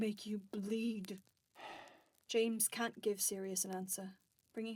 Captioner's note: Sirius sighs